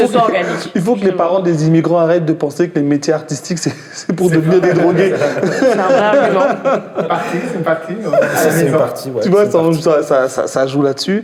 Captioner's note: laughs